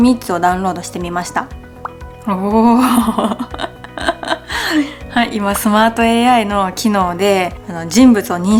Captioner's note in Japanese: 笑い